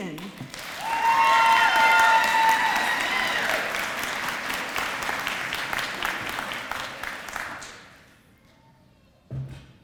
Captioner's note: applause